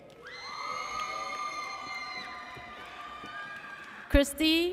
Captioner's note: audience cheers